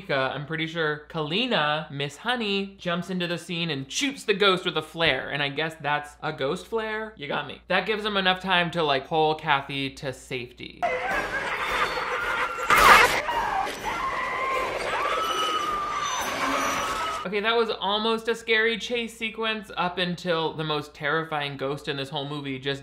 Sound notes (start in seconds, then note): 10.8 Kathy whimpering; 10.8 cage banging